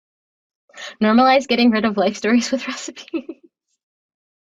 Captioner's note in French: rires